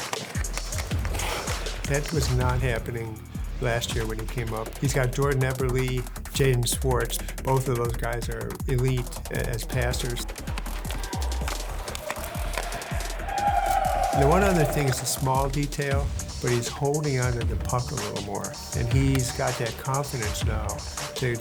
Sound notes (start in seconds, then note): 10.0 skates scarping ice; 11.1 intense music